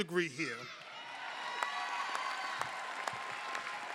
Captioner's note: applause